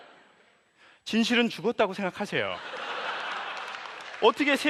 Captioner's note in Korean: 웃음